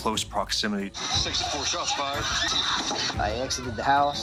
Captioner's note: people screaming